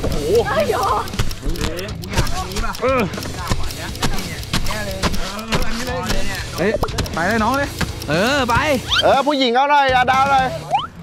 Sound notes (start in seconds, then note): 2.2 shoveling